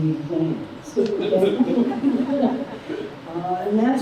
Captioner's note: laughter